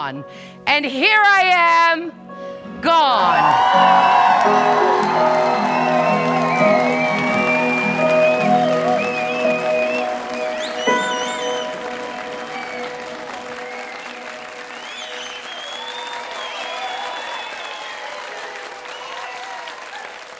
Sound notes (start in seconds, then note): 3.9 crowd Cheering